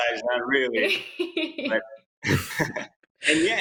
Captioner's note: laughs